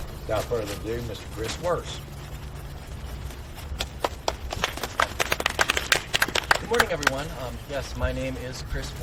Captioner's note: audience clapping